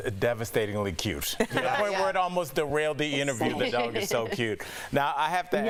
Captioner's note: laughter